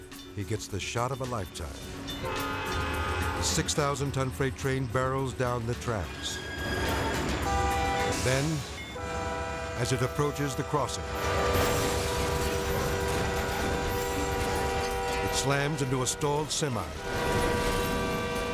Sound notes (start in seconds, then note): 1.8 train horn blaring; 5.9 wheels squeaking; 7.6 train horn blaring; 11.3 train horn blaring; 11.3 vehicles crashing